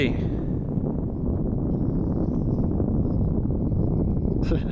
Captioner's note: wind blowing